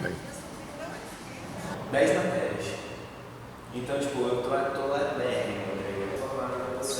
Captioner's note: making small talk